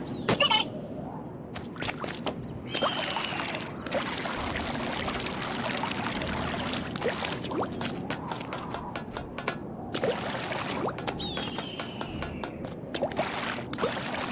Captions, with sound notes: Finished! *Birb noises* That's a lot of ink *More birb noises*